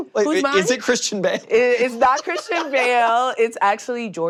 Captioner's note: laughs